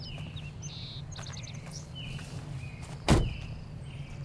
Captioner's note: birds chirping